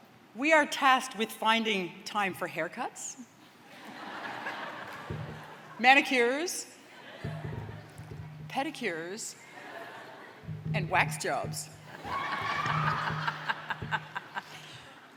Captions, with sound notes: We are tasked with finding time for haircuts... (LAUGHTER) ..manicures... ..pedicures... ..and wax jobs. (LAUGHTER AND CHEERING)